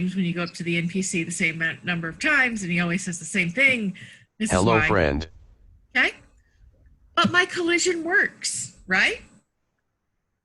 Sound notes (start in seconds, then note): 4.4 computerized Voice